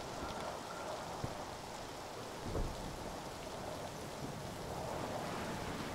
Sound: rain and wind pick up

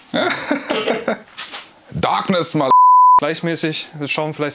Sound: beep

